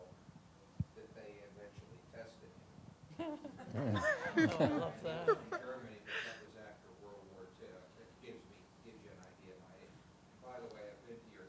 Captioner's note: laughter